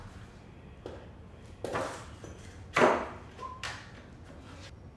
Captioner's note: tools clanking